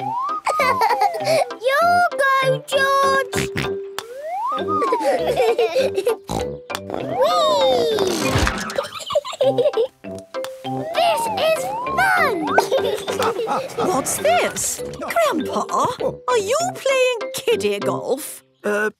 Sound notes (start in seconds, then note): 0.4 laughing; 4.8 snort, laughing; 6.3 snort; 12.0 laughing